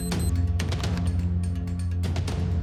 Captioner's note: beeps